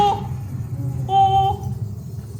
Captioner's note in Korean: 오오오오